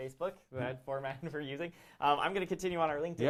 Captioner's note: laughs